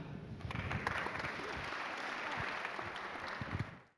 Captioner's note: applauding